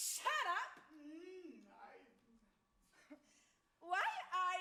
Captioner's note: man moans with delight